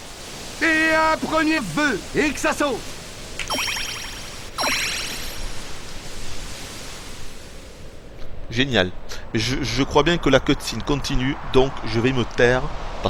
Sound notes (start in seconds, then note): none